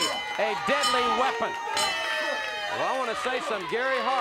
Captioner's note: bell rings